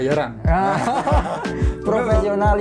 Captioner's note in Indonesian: ketawa